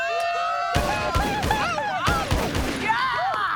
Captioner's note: gunshots and cheering